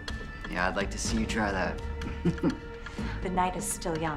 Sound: laughs

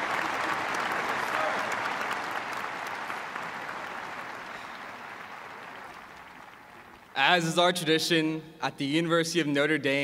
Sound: cheers and applause

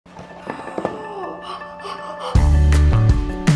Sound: bright music; gasping; upbeat music

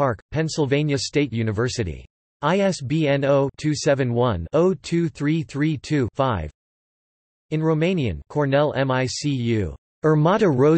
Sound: in Romanian

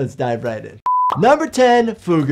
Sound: video beeping

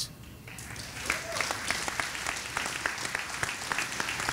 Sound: audience applauding

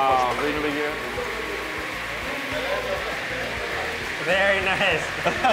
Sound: fryer bubbling; laughs

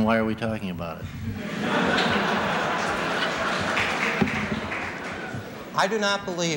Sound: laughter

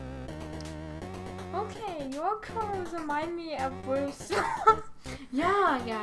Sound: laughs

